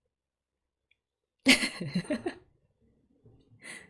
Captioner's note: laughs